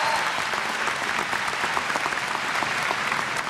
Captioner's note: applause